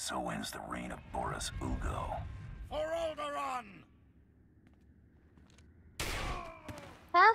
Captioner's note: gunshots